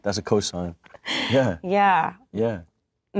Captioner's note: Kristen laughs